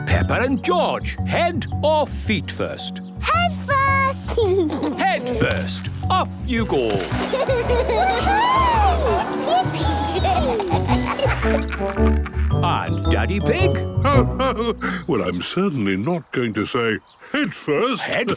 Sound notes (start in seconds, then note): 4.4 giggles; 6.7 giggling; 10.9 laughing